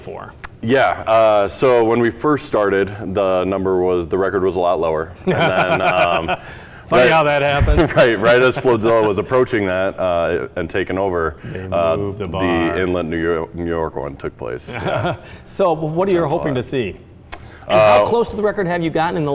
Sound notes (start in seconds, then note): 5.2 laughs; 14.6 laughs